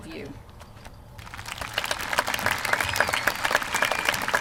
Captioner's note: applause